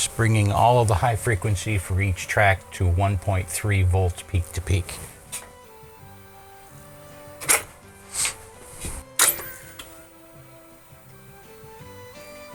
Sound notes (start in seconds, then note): 4.9 clicking; 9.8 soft music